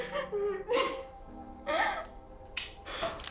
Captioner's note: kiss